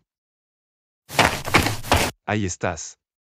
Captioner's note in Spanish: FX - Footsteps - On Multiple Dirt - Run